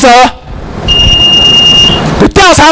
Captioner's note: timer beep